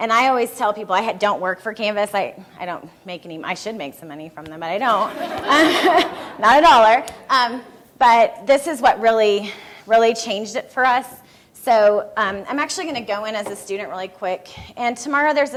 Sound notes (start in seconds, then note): 4.9 laughter from room; 8.2 laughing